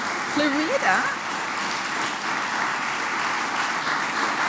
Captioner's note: applause